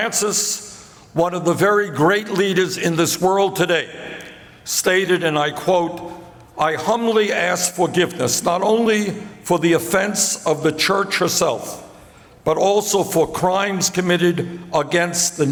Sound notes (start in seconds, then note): none